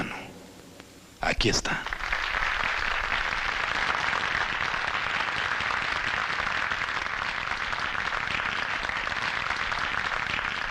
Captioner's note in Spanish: Aplausos